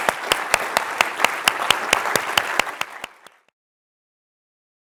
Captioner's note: applause